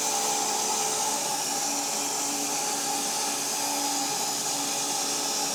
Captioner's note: saw continues whirring